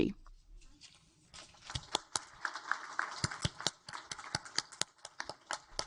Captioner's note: audience applaud